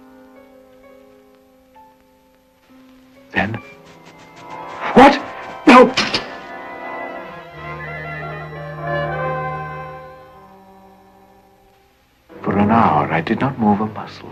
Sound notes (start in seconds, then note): 2.3 background fluttering; 5.3 suspenseful music playing